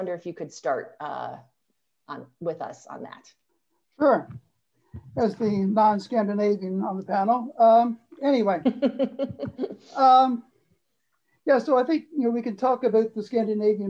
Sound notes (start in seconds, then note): 4.3 laughter